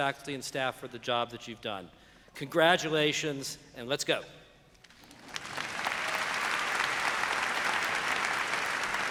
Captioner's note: applause